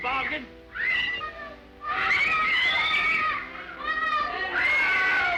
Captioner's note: children screaming